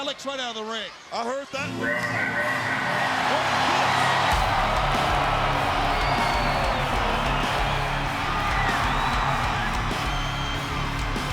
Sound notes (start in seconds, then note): 3.1 upbeat metal music; 3.6 crowd cheers